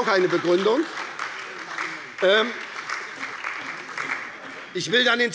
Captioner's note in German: Beifall bei der SPD - Zuruf von der CDU